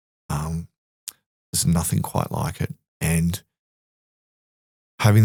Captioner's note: none